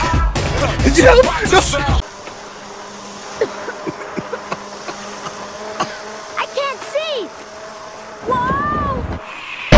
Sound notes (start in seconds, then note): 3.3 coughs